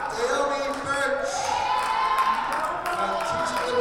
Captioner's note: audience cheers